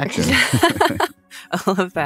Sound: laughter

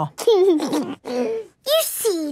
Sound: giggles

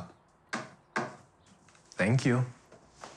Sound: knocking

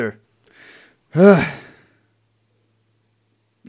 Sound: heavy sighs

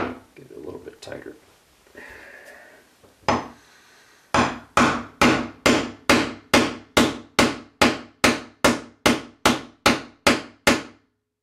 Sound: hammering sounds

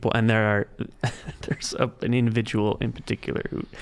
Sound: laughing

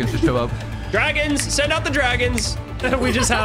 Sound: laughs; snaps fingers

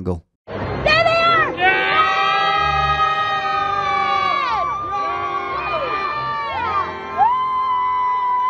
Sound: fans cheer excitedly

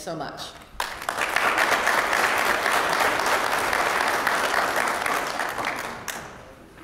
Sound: applause

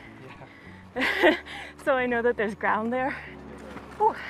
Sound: laughs

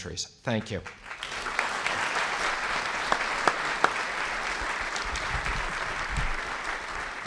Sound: applause

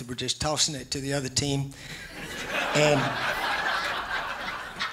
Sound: laughs

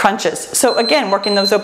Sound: timer beeps

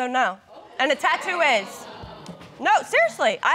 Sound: audience exclaiming

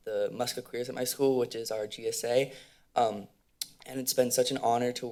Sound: click tongue

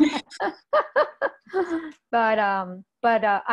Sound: laughs

